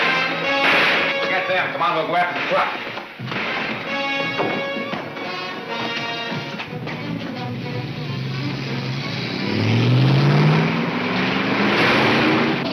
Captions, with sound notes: - Forget them, come on, we'll go after 'em, come on. (dramatic orchestra music) (engine revving)